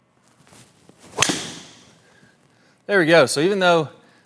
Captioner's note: golf ball cracks